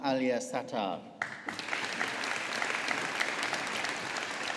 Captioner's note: audience applauding